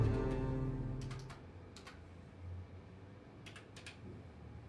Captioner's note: keyboard clacks